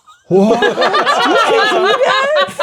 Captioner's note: players laughing